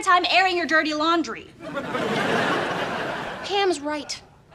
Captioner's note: laughs